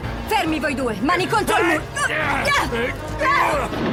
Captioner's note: scientist yelling; grunting